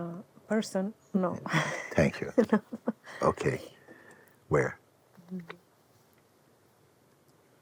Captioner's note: laughs